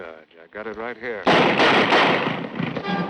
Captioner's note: gunshots